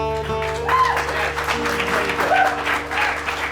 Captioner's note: applause